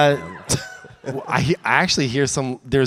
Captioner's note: audience cheers